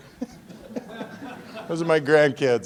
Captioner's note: laughing